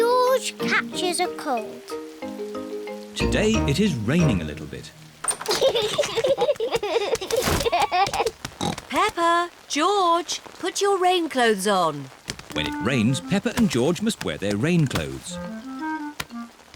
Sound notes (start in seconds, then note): 5.4 both giggling; 8.6 oinks